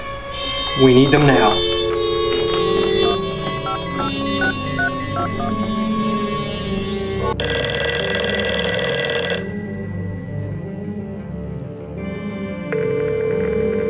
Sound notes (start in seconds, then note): 3.1 tone dialing sounds; 7.6 ringing